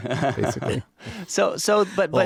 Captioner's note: laughs